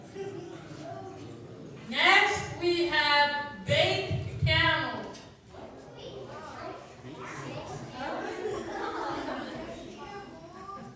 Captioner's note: laughter